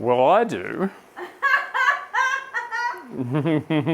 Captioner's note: laughing